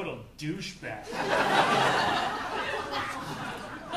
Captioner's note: audience laughing